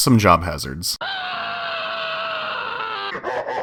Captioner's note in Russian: громкий крик; смех инопланетного владыки